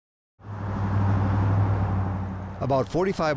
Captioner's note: car engine revving